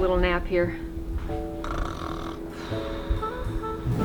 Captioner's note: snore